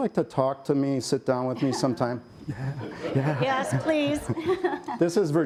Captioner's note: laughter